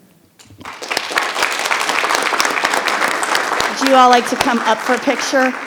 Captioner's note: audience applauds